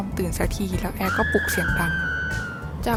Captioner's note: screams